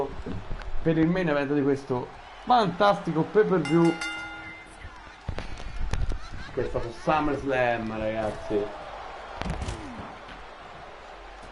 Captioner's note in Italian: Applauso